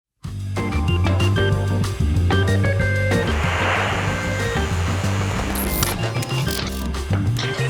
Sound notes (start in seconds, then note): 0.6 funky music; 3.0 static crackling; 5.9 television clicks